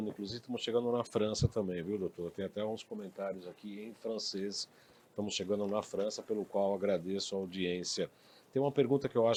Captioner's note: comments in French